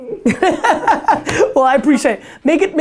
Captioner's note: group laughter